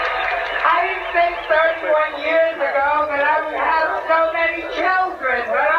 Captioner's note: crowd cheers